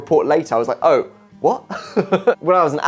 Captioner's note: laughing